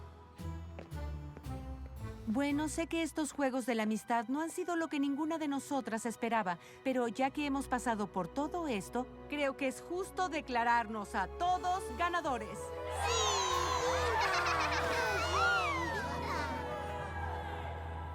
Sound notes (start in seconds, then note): 12.7 cheers